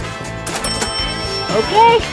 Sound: cash register dinging

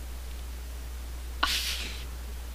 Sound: laughs

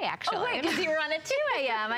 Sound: laughter

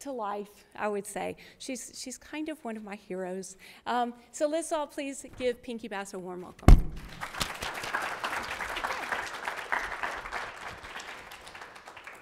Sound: applause

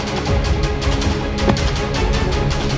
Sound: car door closing

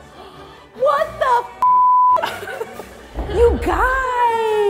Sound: beep

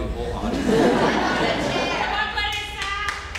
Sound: laughter

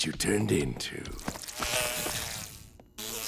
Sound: buzzing

